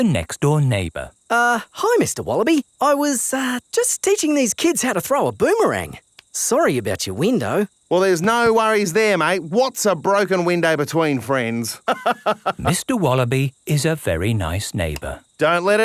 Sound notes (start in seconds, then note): 11.8 laughs